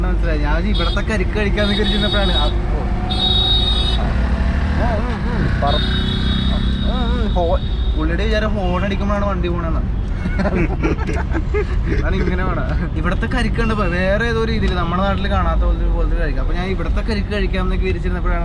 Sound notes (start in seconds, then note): 3.4 reckless honking